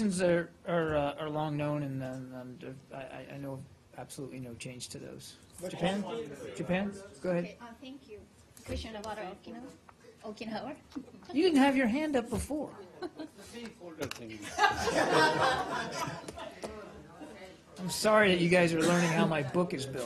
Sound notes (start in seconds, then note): 14.3 laughter